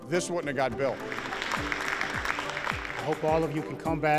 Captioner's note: all applauding